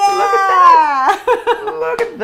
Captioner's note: laughs